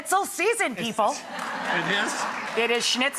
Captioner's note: audience laughs